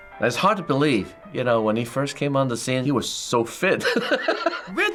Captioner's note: laughs